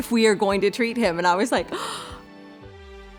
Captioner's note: gasp